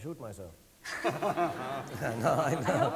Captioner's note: audience laughing